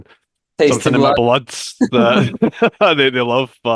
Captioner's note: laughs